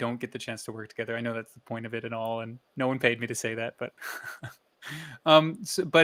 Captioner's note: soft laugh